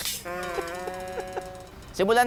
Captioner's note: laughs